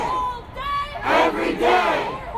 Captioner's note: crowd